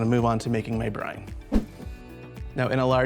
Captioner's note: air whooshes